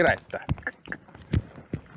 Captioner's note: cluck